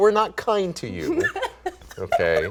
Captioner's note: laughing